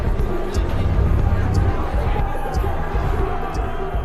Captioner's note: indistinct chatter